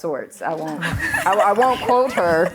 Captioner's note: laughter